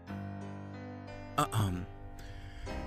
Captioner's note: LUCIFER clears his throat